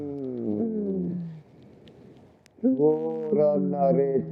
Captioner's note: speaking foreign language